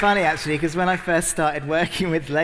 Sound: applause

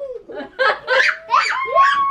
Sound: laughing

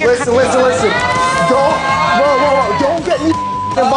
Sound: all shouting

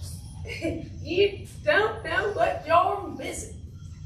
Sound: giggle

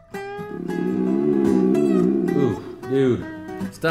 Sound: stomach growls

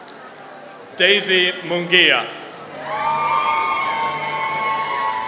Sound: applause

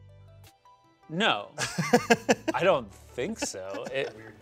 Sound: laughs

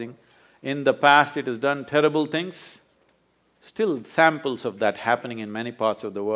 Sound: none

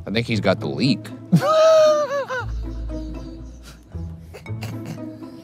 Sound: laughing

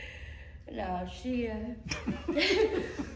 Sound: laughing

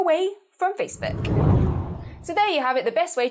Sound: hard whooshing

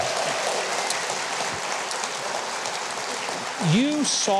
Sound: audience applauding

